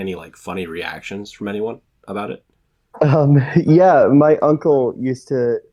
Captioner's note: chuckles